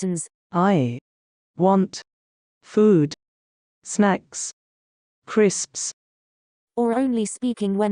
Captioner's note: Proloquo2Go voice